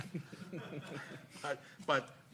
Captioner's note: people chuckling